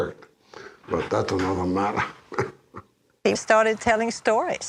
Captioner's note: chuckles